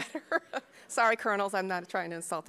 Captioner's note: laughing